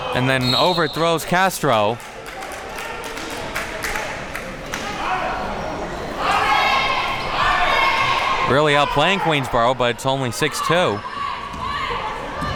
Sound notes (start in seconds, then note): 1.6 crowd applauding